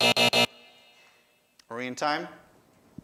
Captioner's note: buzzer